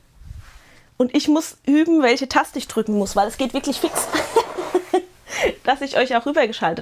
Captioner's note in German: Gelächter